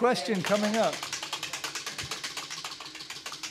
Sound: wheel clacking

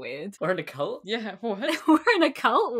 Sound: laughing

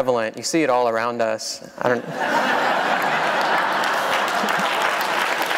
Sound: laughter; applause

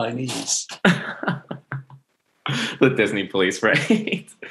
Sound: laughs

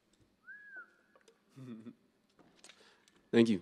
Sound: whistling

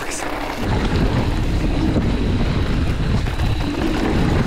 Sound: trail crunches

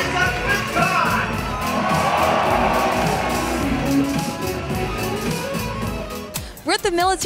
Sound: audience cheering

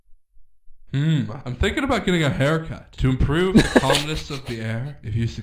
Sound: laughter

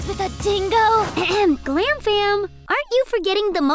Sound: clears throat

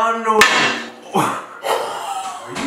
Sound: metal slamming on glass; laughing

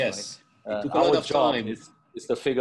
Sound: chattering

